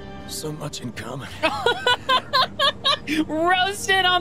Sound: laughter

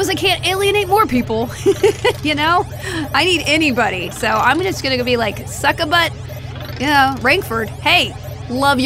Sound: laughs

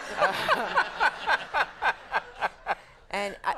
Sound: Conan and audience laughing

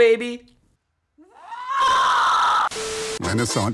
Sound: primal rage scream

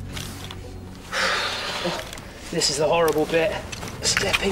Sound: exhales

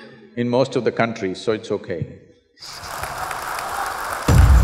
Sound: laughs

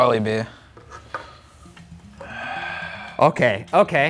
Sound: deep breathing

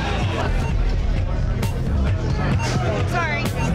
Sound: clock beeping

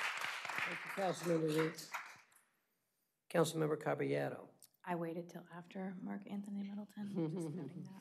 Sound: applause

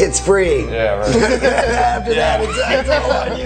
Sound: laughing

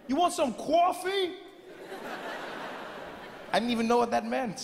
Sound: audience laughing

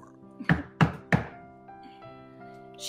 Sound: knocking

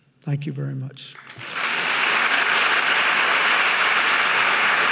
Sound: audience laughing

